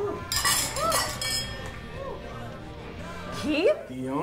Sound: speaks foreign language; glasses clinking

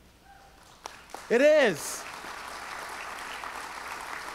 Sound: audience cheers; audience applauds

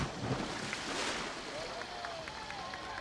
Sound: crew cheering

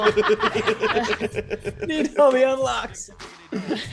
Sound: laugh

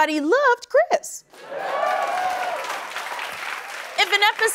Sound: cheers and applause

